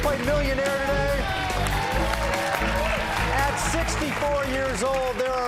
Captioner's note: cheers and applause